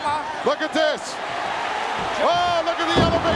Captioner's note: audience cheering